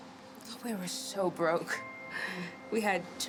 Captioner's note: laughs